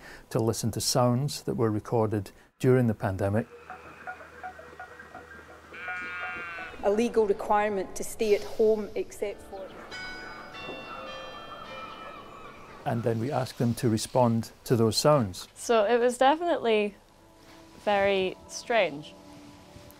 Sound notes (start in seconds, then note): 9.6 town Hall bells chiming